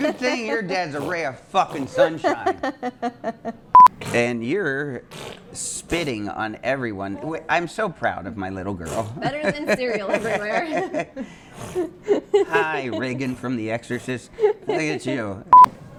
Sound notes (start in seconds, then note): 11.6 people laughing